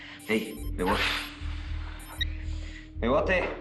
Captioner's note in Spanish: Suena el teléfono